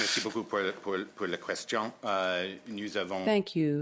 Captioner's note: speaking in French